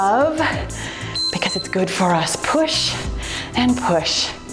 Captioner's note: timer beeps